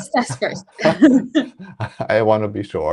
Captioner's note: laughs